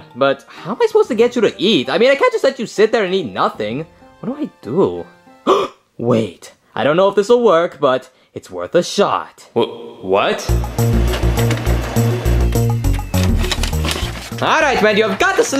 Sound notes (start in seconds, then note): 5.5 gasping; 10.3 upbeat music; 10.6 printing whirring